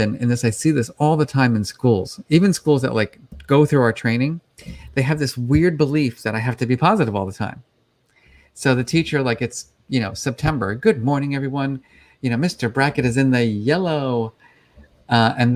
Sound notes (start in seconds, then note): 10.8 cheerfully